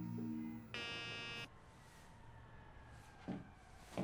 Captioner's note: beeping